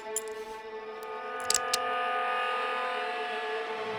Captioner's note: gun cocks